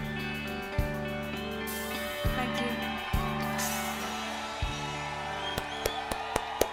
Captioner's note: audience cheering; hands clapping